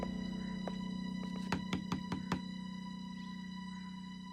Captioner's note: knocking